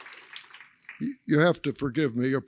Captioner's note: applause